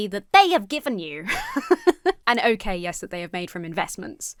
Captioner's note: laughs